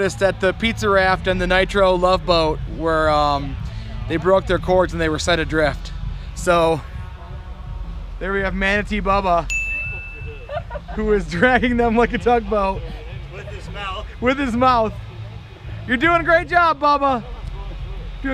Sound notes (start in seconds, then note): 9.4 chiming music; 10.0 woman laughs